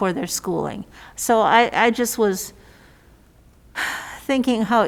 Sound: sighs

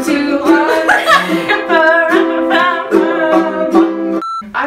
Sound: guitar music; laughs

